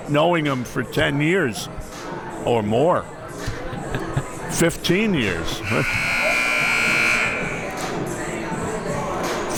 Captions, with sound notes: knowing him for 10 years or more. 15 years. (buzzer ringing)